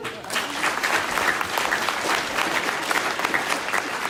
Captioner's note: applause